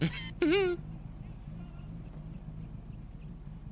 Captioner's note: cough